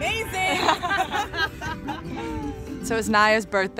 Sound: laughter

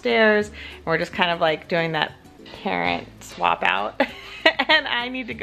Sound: laughs

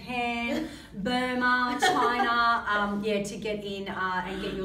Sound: laughs

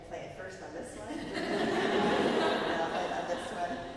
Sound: audience laughs

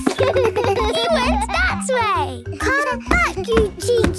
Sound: giggles

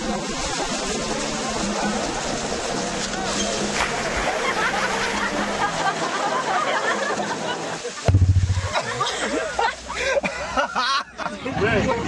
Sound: brakes squealing; laughter

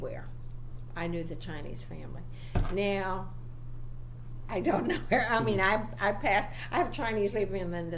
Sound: hits table

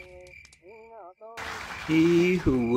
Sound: applause

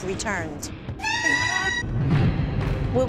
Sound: shouting

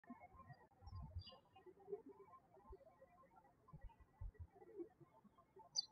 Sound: birds chirping

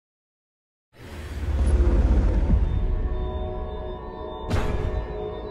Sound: electronic chimes

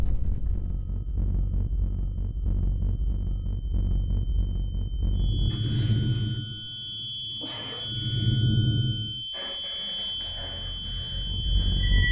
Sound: high pitched frequency

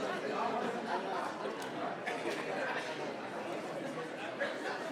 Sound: people chattering continues

